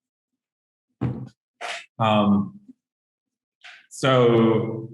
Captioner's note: floor banging